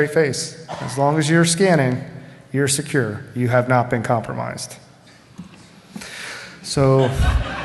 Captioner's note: laughter